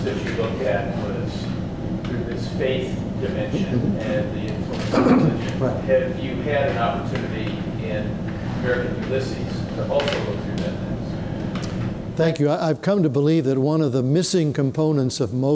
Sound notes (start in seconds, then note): 4.8 clears throat